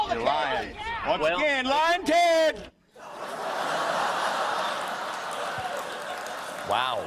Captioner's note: laughter